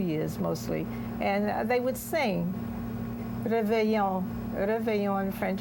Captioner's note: speaking french